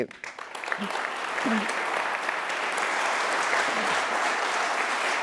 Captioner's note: applause